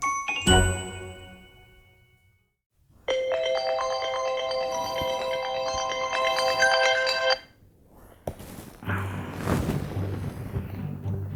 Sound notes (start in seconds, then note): 3.2 alarm sounding